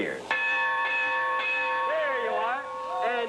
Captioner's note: rings bell